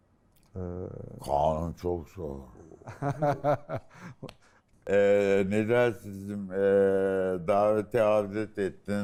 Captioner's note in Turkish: kahkaha